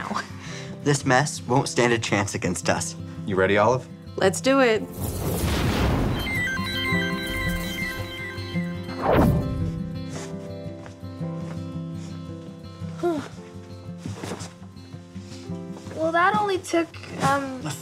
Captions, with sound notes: - This mess won't stand a chance against us. - You ready, Olive? - Let's do it. (electricity whirring) (soft music) - Well that only took-